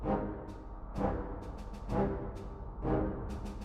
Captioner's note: wind blowing